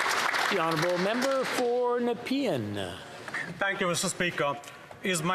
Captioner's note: some Applause